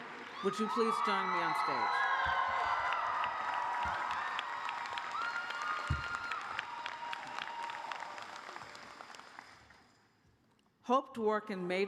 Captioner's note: cheers and applause